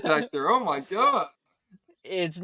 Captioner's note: both laughing